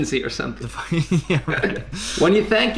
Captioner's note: both laugh